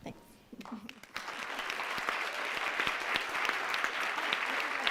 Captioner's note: crowd applauds